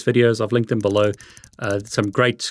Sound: computer keys clicking

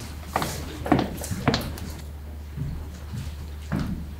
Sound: feet shuffling

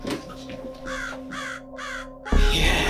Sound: sound of raven cawing

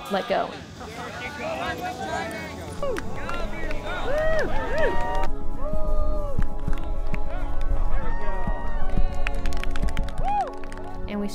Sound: applause, shouts

